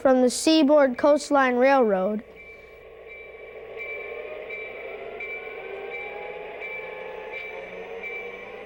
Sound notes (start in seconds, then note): 4.2 bell clanging